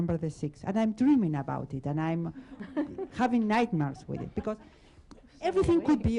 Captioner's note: laughter